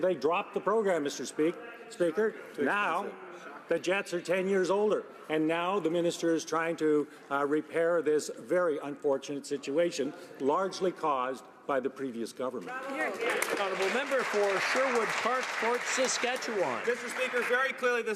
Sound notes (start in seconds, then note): 15.8 some Applause